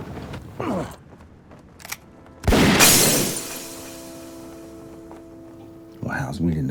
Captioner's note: gunshot